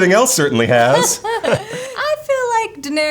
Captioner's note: laughs